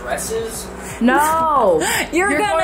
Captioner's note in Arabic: تضحك